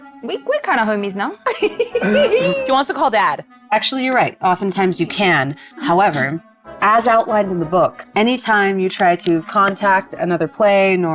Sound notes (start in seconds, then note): 1.5 player laughing